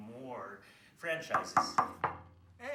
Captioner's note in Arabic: يطرق